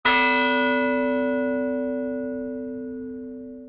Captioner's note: bell chimes